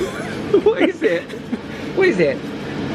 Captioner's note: laughs